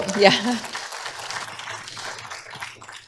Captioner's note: applause